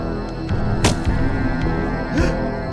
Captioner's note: body thudding; gasping